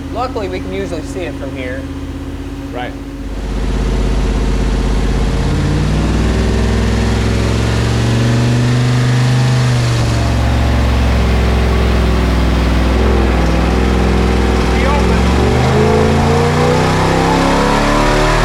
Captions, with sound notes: Luckily we can usually see it from here. - Right. (engine revving) They opened. (engine revving)